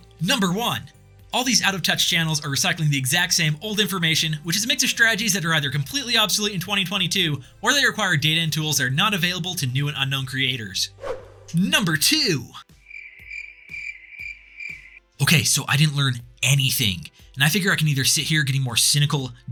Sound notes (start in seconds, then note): 12.8 crickets